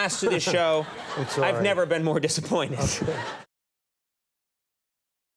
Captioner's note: laughs